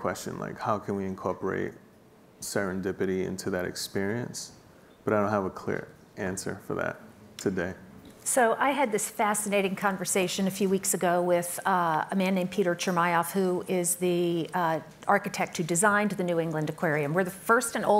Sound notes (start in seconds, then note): none